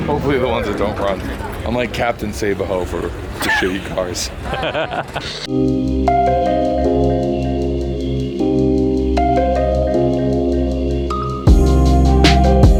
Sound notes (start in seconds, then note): 3.4 laughing; 5.4 melodic hip hop music